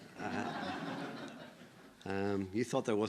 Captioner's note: audience laughing